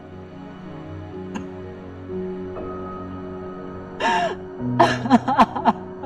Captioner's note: crying